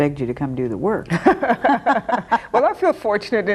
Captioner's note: both laughing